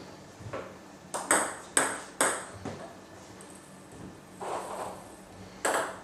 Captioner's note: balls ping pong hitting continues